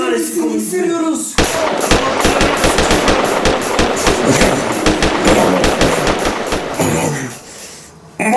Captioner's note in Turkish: silah sesleri